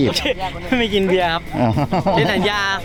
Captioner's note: laughs